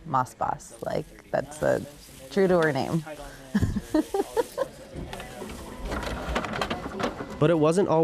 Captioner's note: laughter